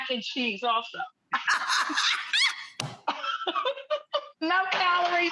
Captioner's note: laughs